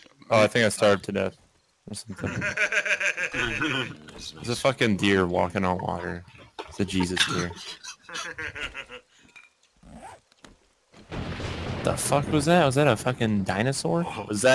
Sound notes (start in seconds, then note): 1.9 laughs; 8.4 laughs; 11.0 thunder booms